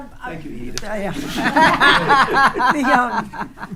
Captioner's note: attendees laughing